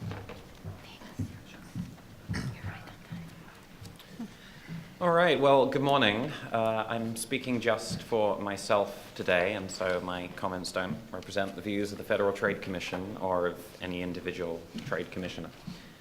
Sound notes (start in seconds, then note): 1.2 whispers off-microphone